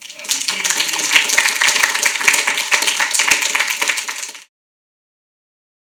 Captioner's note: audience applauding